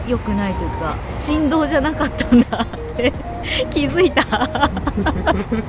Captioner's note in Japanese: 笑い